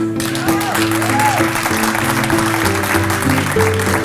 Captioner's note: applause